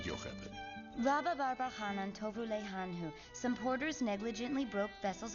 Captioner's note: speaking Hebrew